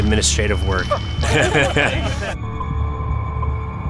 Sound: laugh

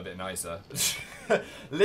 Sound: laughs

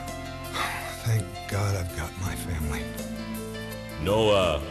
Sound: sighs

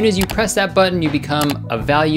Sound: button clicking

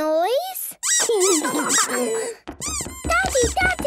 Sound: squeaking

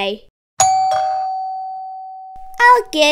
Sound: door bell rings

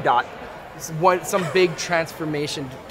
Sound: laughs

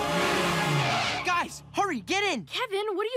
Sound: tires screeching

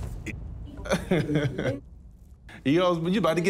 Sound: chuckles

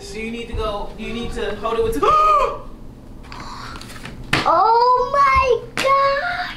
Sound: gasps

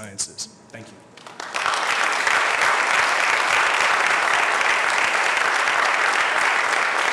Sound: applause

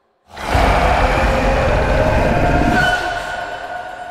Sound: demon growling

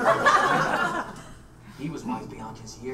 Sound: audience laughs

